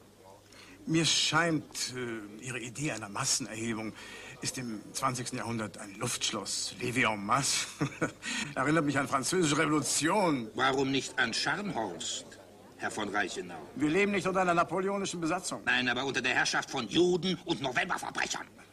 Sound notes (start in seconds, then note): 7.6 giggles